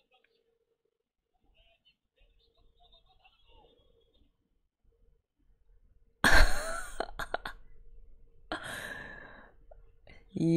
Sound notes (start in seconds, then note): 6.2 laughs